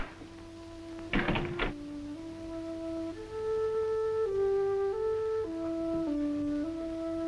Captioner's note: door closes; dramatic music